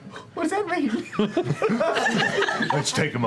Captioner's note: laughter